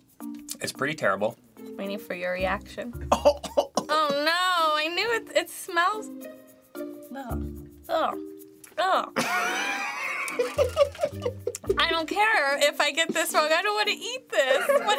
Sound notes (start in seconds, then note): 3.0 coughs; 9.2 snickering